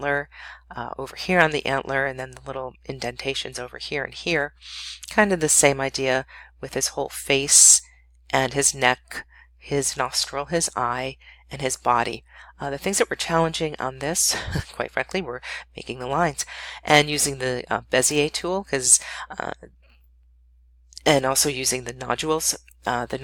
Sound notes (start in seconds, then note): 14.4 chuckle